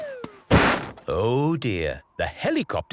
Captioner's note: bangs